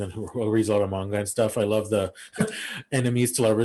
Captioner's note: laughs